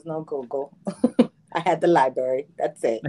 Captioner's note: laughs